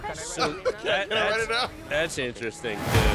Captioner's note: laughter